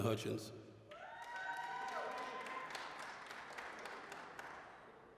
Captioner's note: applause, cheering